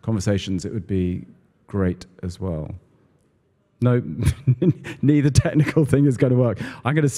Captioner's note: laugh